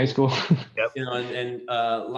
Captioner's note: laughter